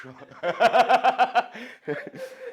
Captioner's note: laughs